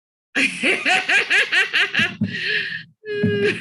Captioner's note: laughs